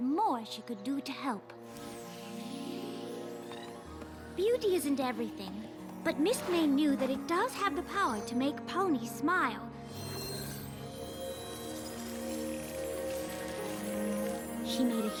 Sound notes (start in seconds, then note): 1.6 melancholy tune plays; 1.7 tinkling; 9.9 tinkling; 10.7 resonating